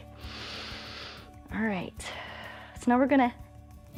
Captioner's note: inhales